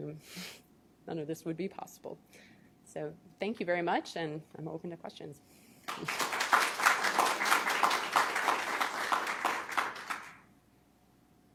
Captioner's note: applause